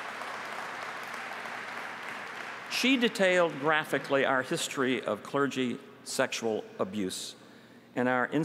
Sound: applause

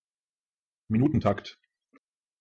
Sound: fast Pronunciation

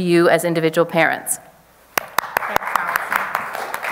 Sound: audience applause

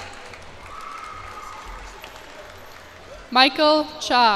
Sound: cheers and applause

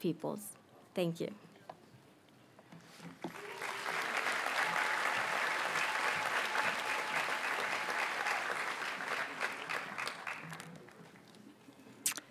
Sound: audience applauds and cheers

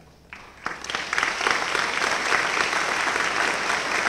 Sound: applause

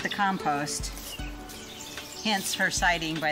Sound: birds singing

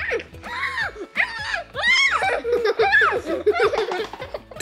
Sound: screaming and laughing

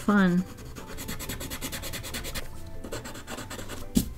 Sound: coloring sounds intensifies

